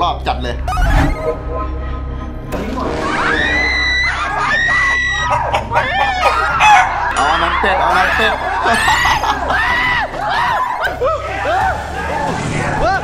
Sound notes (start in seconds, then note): 0.1 radio; 0.8 uneasy melody playing; 3.2 screams; 5.1 chicken chirping; 8.9 laughs; 9.6 screams; 10.9 yells